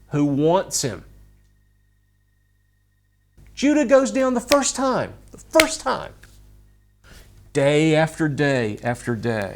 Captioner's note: claps